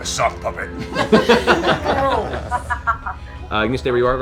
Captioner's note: laughter